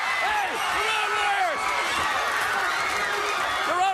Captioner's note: crowd cheering